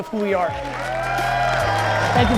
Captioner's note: audience cheers and applause